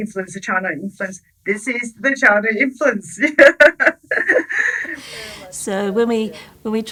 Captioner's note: laughing